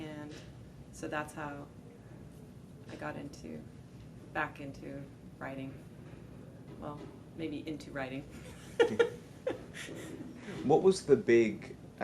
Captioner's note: laughs